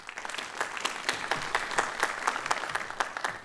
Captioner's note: applause